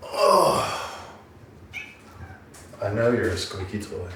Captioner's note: grunting